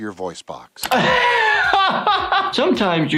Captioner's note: laughs